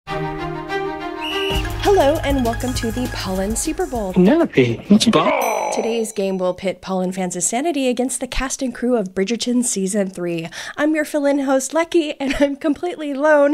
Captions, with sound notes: (upbeat music) (referee whistle) (intro music) - Hello and welcome to the Polin Super Bowl. - "Penelope, what a-" - "Ball!" - Today's game will pit Polin fans' sanity against the cast and crew of Bridgerton season three. I'm your fill in host, Lechi, and I'm completely alone